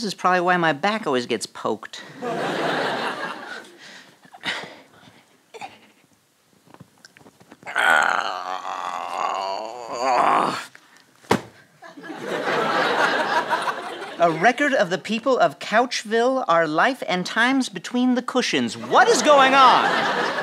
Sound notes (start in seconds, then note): 7.6 grunt